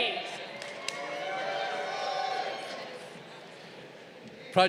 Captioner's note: crowd cheering